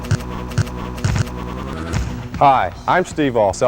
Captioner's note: the sound of training too hard